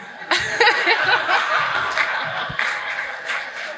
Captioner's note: audience laughs